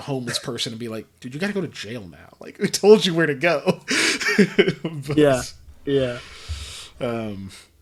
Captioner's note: laughs